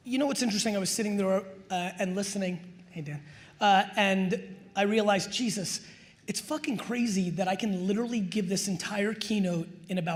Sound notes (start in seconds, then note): none